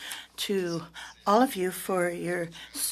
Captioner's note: speaking French